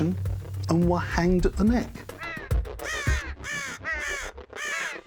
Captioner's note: birds cawing